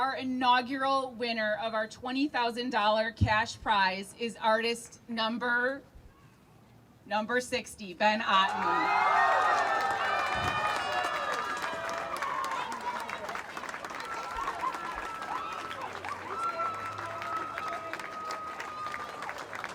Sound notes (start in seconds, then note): 8.8 crowd cheering